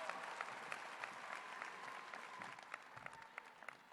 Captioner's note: applause